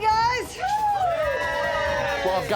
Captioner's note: cheering